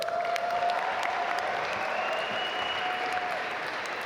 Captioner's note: audience applaud